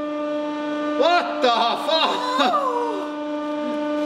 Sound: light laughter and groans

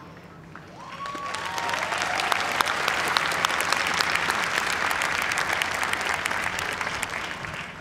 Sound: cheers and applause

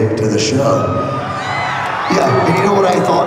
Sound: cheering

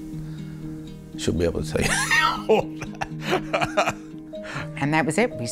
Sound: laughs

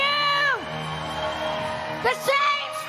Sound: congregation applauding

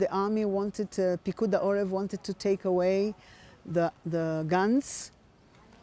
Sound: hebrew

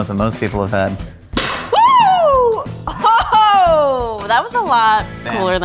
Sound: excited shouting

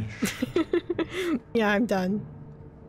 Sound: laughs

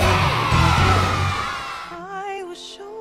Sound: cheering

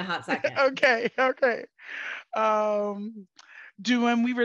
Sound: laughing

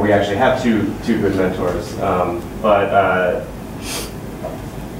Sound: none

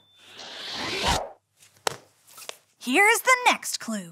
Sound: air whooshing

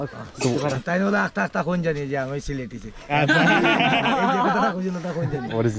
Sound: speaking local language

